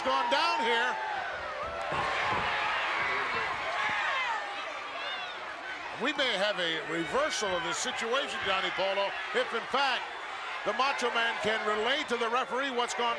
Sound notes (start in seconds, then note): 2.7 crowd cheers